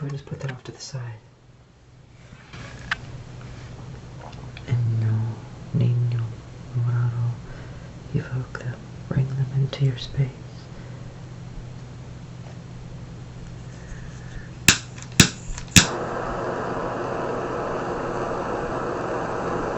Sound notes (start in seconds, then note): 14.7 clicking